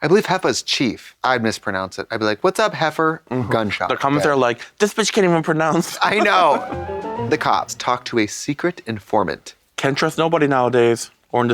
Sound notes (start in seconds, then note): 6.2 bright chime